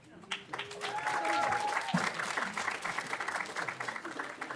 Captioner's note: audience applauding